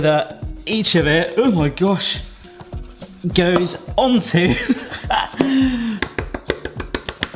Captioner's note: laughs